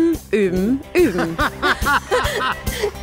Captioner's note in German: Er lacht auf